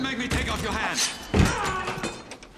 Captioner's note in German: Stöhnen; Stöhnt